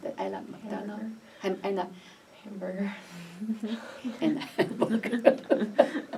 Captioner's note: laughs